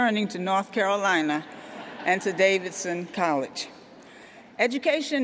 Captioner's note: laughter